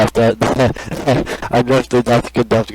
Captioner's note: nervous laughter after the goon behind me tapped me with his bat